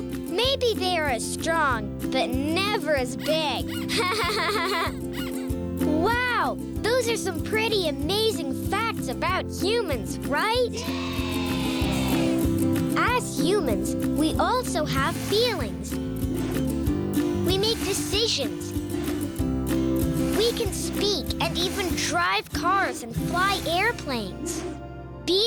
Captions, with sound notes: Oh, maybe they're as strong, but never as big. (laughing) Wow, those are some pretty amazing facts about humans, right? (cheering yeahs) As humans, we also have feelings, we make decisions, we can speak, and even drive cars, and fly airplanes.